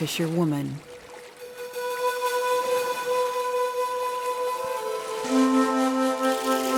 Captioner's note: water babbling; gentle flute music